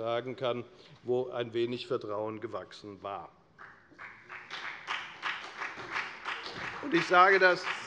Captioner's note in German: Beifall bei der FDP und bei Abgeordneten der SPD